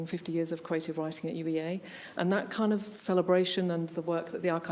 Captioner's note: none